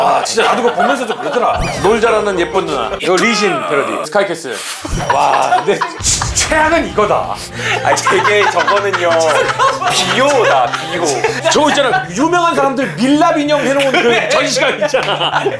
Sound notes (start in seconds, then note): 4.6 hahahahahaha